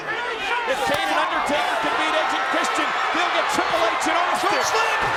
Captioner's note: presenter speaking faintly off mic